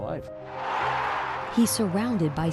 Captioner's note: crowd roaring